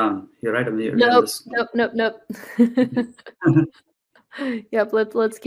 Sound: laughs

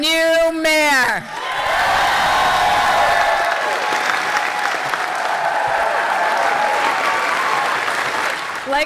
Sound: cheering

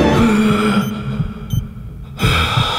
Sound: groaning; beeping; groaning

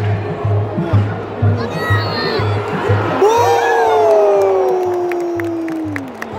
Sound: clap

